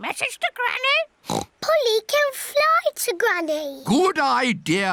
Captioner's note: oinks